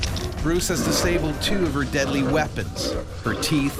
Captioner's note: voiceover